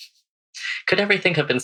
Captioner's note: laughs